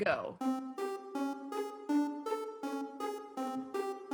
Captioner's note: timer countdown